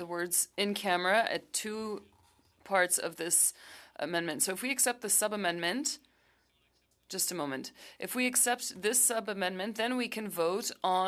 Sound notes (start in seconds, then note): 2.3 speaking French